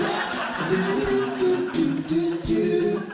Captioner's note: audience Laughing